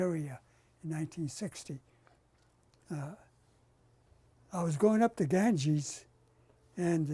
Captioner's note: pauses for 3 seconds